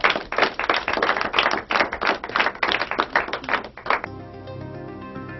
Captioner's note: Applaus